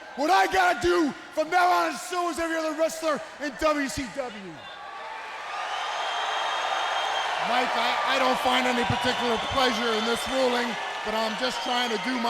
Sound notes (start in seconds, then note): 5.2 crowd cheering